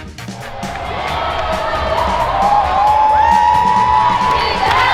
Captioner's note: cheering